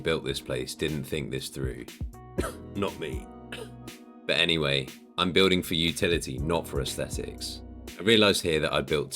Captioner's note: cough